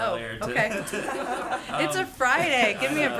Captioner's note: laughter